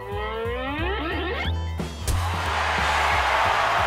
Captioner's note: crowd cheers